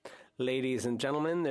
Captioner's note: speaking French